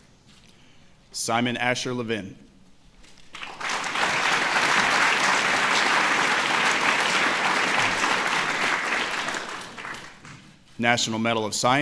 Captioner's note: applause